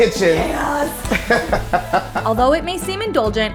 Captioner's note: laughs